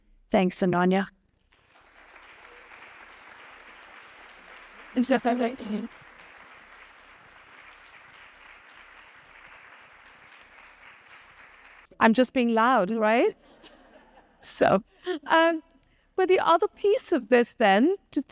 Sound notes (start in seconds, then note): 2.0 audience applauding